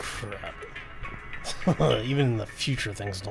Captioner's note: chuckles